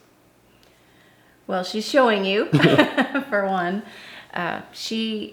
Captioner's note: laughs